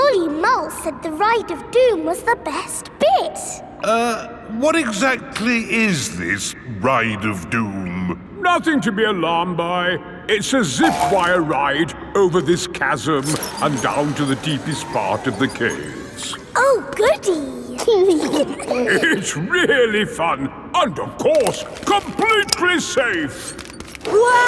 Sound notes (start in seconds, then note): 17.7 giggling